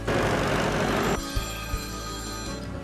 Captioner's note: tractor engine rumbling; phone ringing